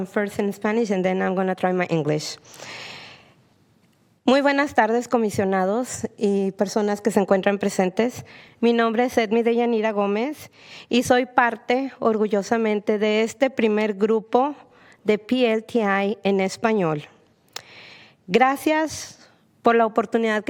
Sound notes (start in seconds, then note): 15.7 speak spanish